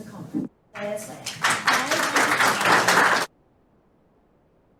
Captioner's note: applause